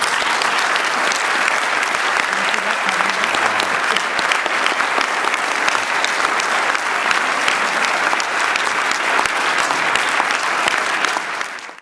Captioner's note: applause